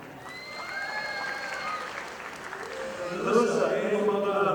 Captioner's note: audience applauding